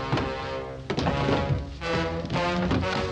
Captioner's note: clattering